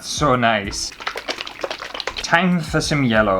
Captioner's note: liquid Swishing